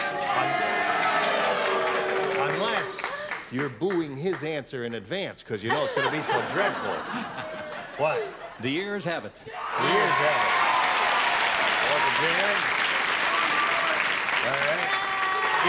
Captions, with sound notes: [applause] Unless you're booing his answer in advance because it's going to be so dreadful. [laughter] What? - The ears have it. - The ears have. [cheering and applause] On to Jan. All right.